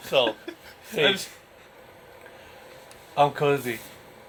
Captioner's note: laughing